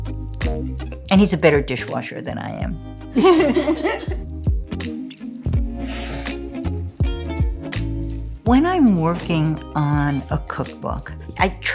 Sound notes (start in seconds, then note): 3.1 laughter